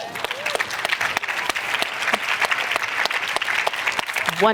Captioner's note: applause